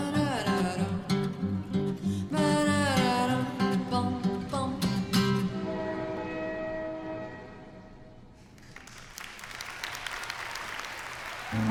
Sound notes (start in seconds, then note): 5.5 train whistle blows; 8.4 applause